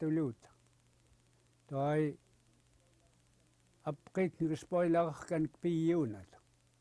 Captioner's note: in English